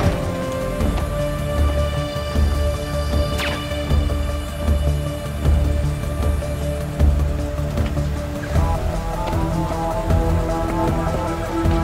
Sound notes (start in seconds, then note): 2.9 gun fires; 4.6 intense music continues